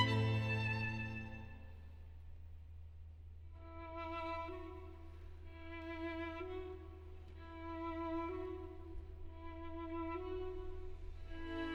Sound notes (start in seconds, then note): none